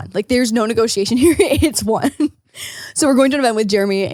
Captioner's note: giggles